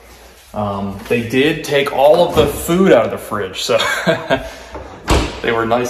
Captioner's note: laughs